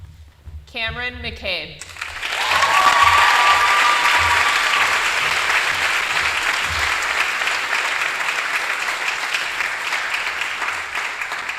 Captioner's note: applause